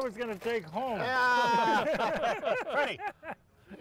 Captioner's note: laughing